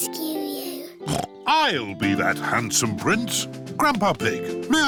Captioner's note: snorts